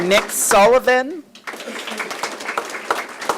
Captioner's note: applause